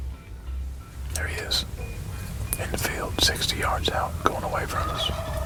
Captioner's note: whispering